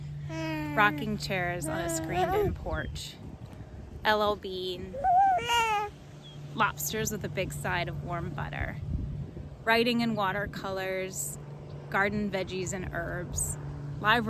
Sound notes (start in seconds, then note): 0.3 cooing; 4.9 cooing